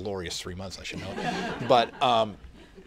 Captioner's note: laughter